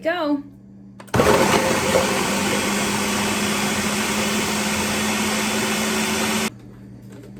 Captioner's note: whirring noises